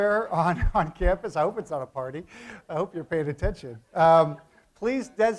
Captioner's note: laugh